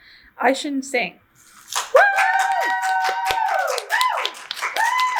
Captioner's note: audience cheers